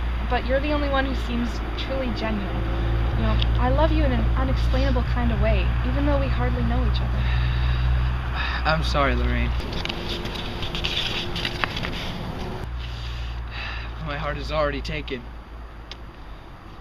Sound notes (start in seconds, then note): 7.2 Alex sighs; 9.5 Picture rustles as Alex pulls it from his pocket; 15.4 kissing sound